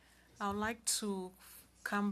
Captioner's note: speaking French